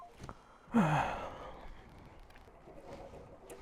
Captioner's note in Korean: 깊은 한숨